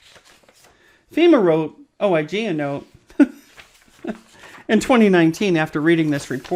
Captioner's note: laughs